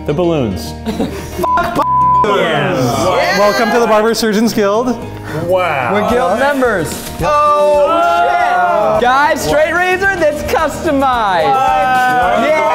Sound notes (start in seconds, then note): 1.4 beep